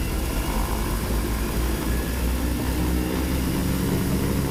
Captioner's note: engines revving